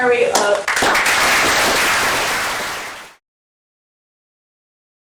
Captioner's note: applause